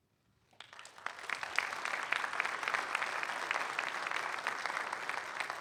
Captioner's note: audience applauding